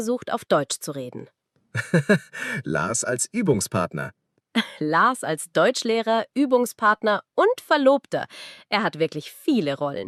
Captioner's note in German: gelächter